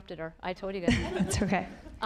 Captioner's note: audience laughing